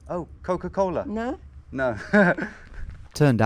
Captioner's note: laughs